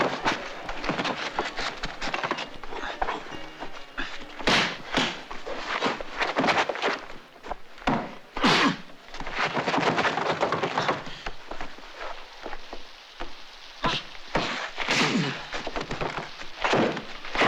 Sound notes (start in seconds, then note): 8.2 grunting